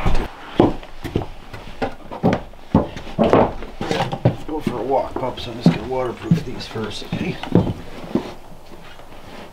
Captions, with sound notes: (footsteps clomping) - Let's go for a walk, pups. I'm just gonna waterproof these first, okay?